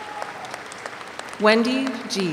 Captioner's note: audience applauds